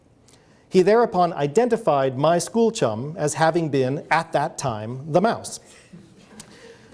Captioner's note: audience laughs